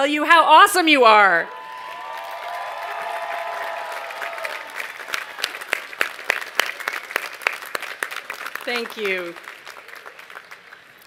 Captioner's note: cheers and applause